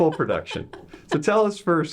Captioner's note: laughing